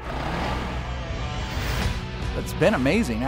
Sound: engine revs

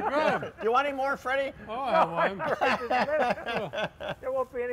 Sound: laughing

